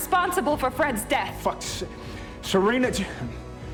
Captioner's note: shouting